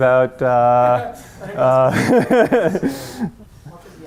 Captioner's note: laughter